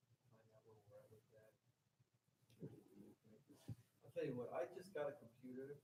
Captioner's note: speaking faintly